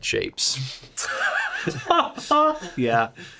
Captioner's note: laughs